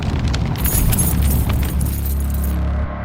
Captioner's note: door keys jangle